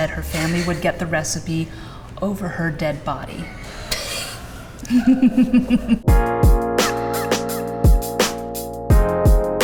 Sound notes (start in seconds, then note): 4.8 both laugh; 6.0 upbeat music